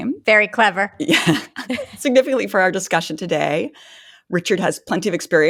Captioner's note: laughing